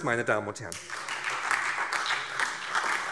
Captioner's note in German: Beifall SPD, Freie Demokraten und DIE LINKE